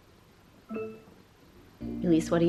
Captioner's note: computer beeps